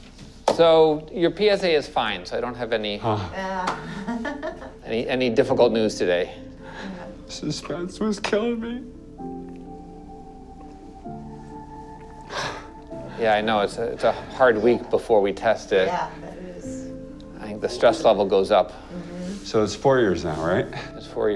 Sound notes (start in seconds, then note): 3.1 laughs; 7.2 crying; 9.1 somber music; 12.2 sighs